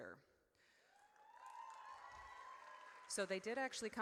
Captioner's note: audience cheers